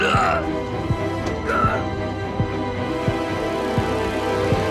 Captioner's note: Vincent grunts